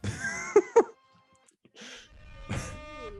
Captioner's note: laughing